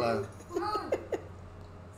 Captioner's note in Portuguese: Sims conversam